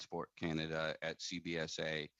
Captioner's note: speaking French